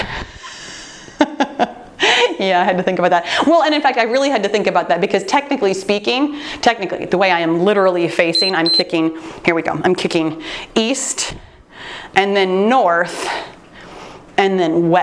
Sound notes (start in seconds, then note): 1.1 laughs; 8.3 timer beeps